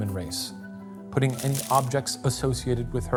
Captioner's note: pen scratching; paper crinkling